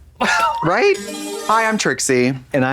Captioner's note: bright chime